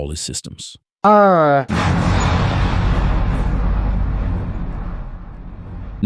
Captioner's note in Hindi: विस्फोट।